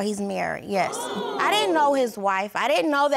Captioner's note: audience gasps